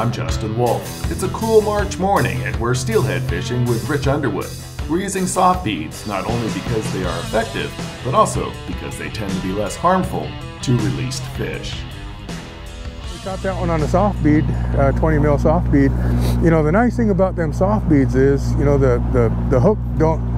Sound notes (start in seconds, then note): 12.1 boat engine idling